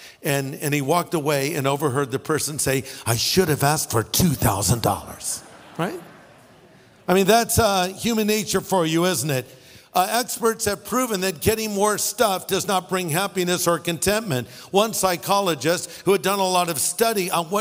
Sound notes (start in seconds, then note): 4.4 audience laughing